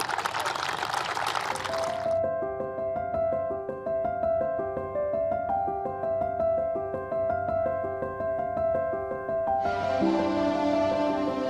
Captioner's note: applause